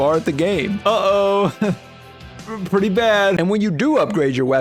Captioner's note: nervous laughter